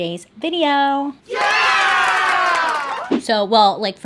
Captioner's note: crowd claps and cheers